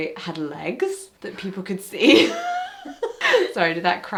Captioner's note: laughs